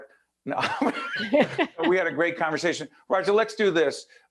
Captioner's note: laughing